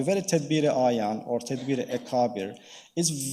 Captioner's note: speaking in foreign language